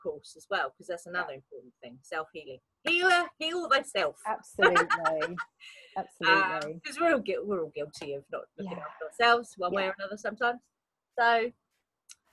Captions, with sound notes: 'cause that's another important thing, self healing, healer, heal thyself, (laughs) - Absolutely, absolutely. - 'cause we're all guilty of not looking after ourselves one way or another sometimes. - Yeah.